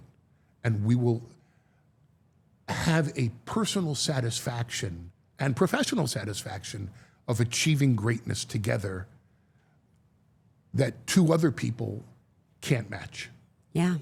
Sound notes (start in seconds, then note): none